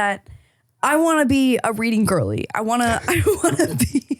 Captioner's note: laughing